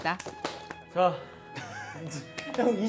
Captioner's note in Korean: 한숨